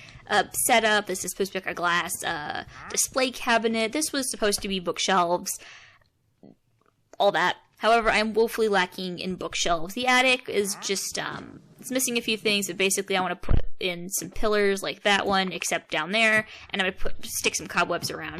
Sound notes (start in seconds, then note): none